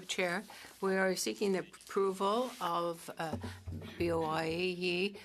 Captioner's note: speaking French